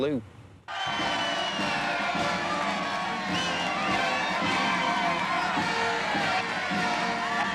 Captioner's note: crowd cheering; upbeat military music